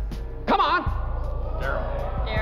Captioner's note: oohing